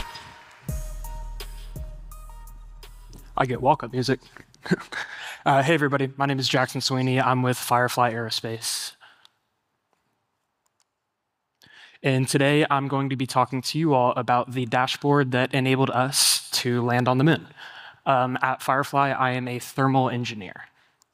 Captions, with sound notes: (upbeat electronic music) - I get walk-up music. (chuckles) Hey, everybody, my name is Jackson Sweeney. I'm with Firefly Aerospace. And today, I'm going to be talking to you all about the dashboard that enabled us to land on the Moon. At Firefly, I am a thermal engineer.